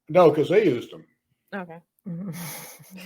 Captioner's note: laughs